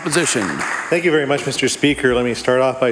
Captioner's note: applause